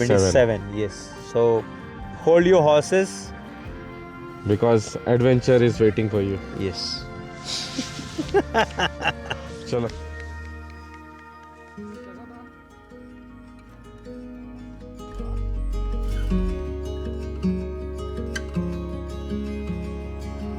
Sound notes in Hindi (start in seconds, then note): 7.1 नाक से की जाने वाली आवाज़; 7.5 हंसी